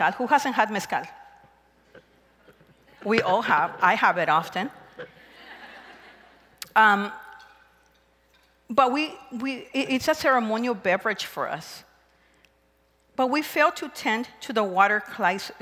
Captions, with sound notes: Who hasn't had mezcal? We all have. I have it often. [crowd laughs] But it's a ceremonial beverage for us. But we failed to tend to the water